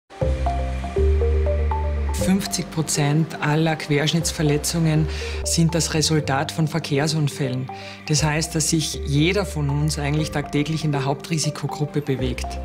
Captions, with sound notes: (German) Half of all spinal cord injuries are the result of traffic accidents. That means every single one of us is in the group that's most at risk, each and every day.